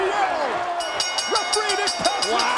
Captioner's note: bell dinging